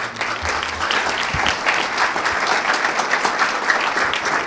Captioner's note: audience clapping